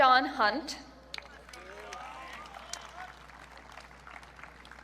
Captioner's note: audience cheering